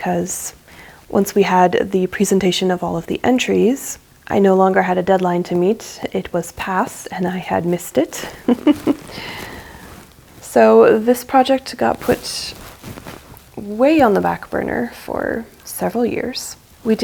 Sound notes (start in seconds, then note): 8.3 chuckles ruefully